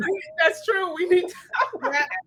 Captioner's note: laughs